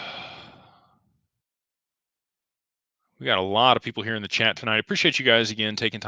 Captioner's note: sighs